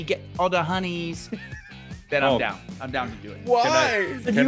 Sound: laugh; laugh

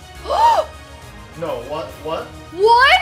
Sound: gasps

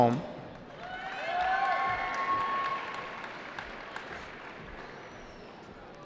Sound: cheering

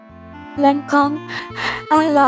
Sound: sniffle, sniffle

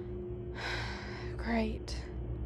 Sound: sighs

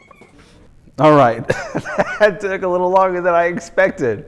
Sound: laughs

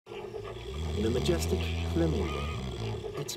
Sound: man snoring

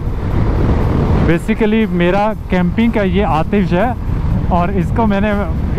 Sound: fire

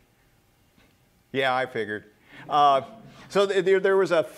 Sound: laughter

